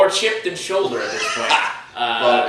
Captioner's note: laughs